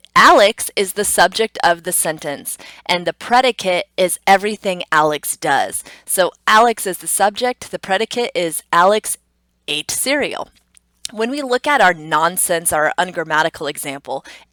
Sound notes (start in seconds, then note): none